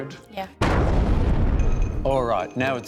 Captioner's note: explosion